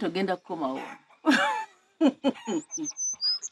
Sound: chuckles

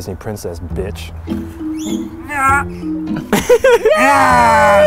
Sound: laughing; shrieking

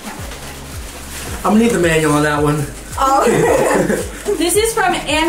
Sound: laughing

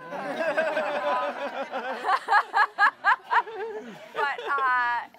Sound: laughter

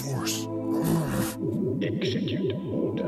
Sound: grunt

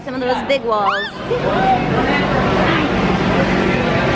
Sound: baby squeals

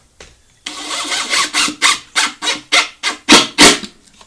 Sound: drill running

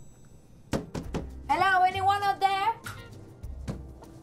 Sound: ding

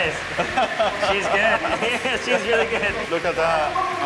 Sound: laughs; chuckling

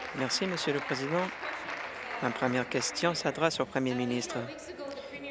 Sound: applause

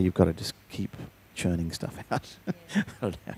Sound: laughs

